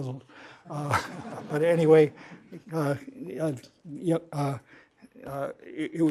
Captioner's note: laughter